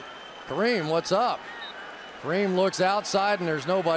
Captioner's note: pa announcement